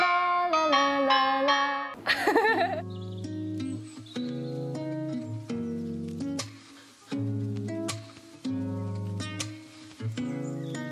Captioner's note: laughs